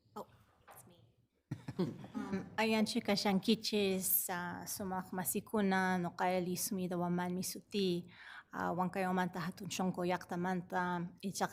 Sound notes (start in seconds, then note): 1.5 all laughing; 2.7 speaks foreign language